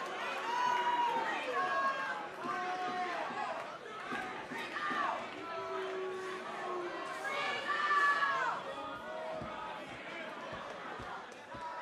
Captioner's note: cheers and applause